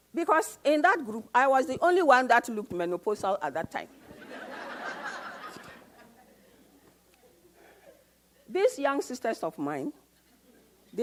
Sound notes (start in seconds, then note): 4.0 audience laughs